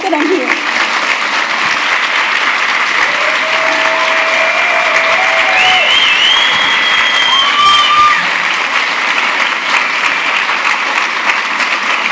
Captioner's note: cheers & Applause